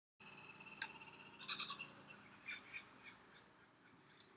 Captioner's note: the sound of birds laughing